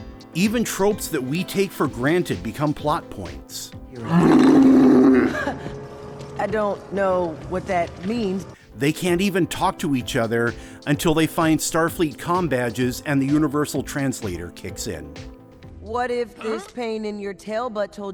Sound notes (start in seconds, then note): 3.5 Growls in Brikar; 4.0 laughs nervously